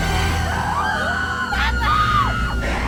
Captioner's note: all screaming